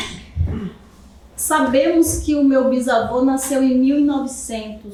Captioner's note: speaking portuguese